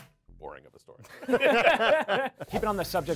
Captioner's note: all laughing